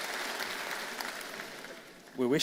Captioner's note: applause